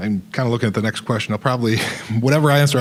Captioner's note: chuckling